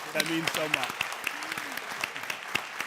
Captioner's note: audience applauding